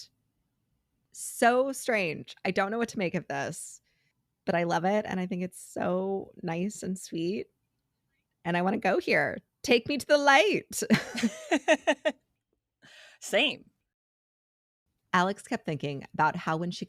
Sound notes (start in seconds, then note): 11.1 laughs